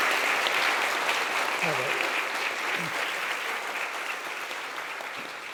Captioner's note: audience applauding